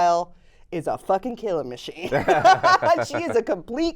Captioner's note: laughs